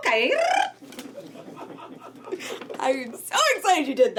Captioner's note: group laughing